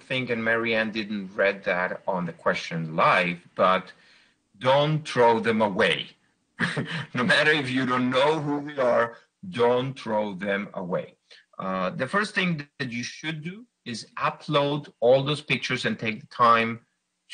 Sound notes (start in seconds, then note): 6.6 laughs